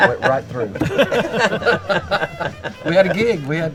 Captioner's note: everyone laughing